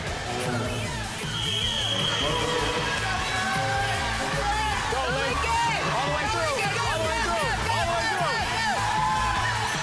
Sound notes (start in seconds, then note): 1.2 whistle blowing; 2.6 people cheering